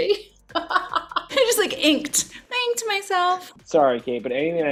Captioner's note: laughing